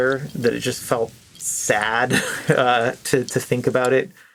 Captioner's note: chuckles